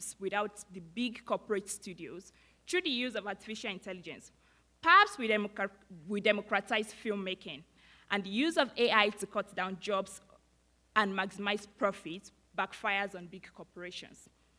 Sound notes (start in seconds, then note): none